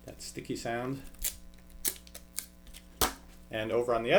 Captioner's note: sticky peeling and clack